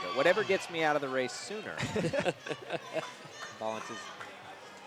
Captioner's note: laughter